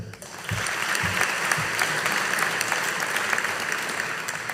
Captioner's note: audience applauding